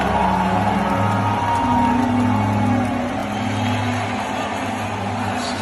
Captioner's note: crowd cheers